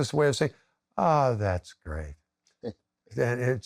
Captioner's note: chuckles